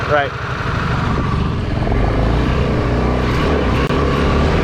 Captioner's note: engines whirring